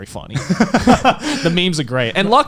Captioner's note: laughing